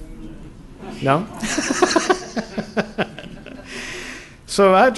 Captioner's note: laughter